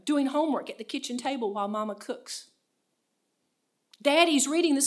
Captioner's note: in foreign language